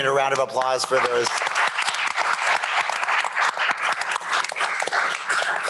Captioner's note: applause